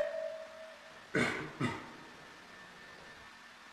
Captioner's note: caugh